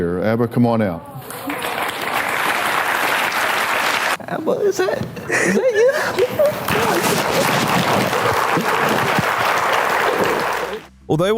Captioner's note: applause